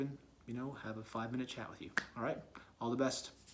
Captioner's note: clap